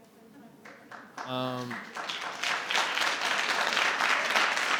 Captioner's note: group applauding